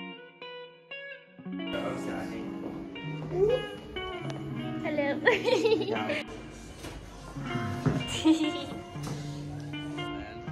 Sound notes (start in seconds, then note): 5.2 giggle; 8.1 laughter